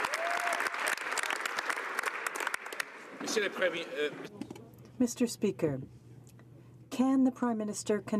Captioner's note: some Applause